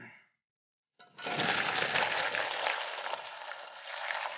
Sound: water pouring

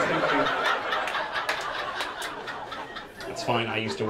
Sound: audience laughing and clapping

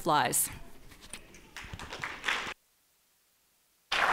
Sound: applause

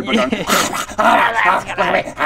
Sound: hrrararaahagrhaggh

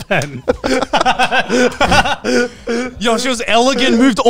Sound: all laughing

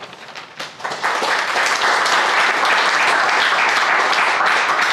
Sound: crowd applauding

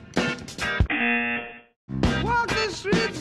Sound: buzzer

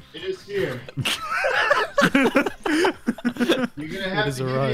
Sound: laughter

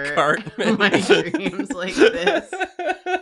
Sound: laughs

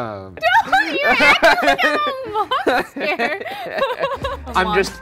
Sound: laughs

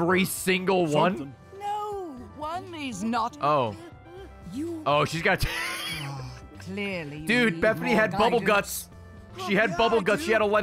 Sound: laughs

